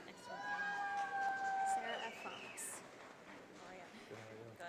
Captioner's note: audience applauding